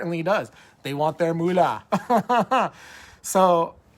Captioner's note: laughs